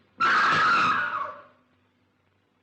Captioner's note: scream from speaker